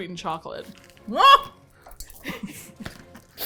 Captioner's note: startled; laughs